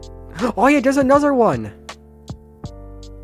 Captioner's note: gasps